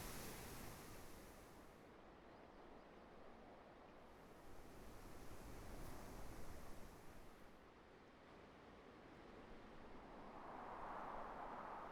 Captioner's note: wind blowing